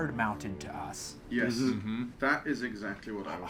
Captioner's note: group agreeing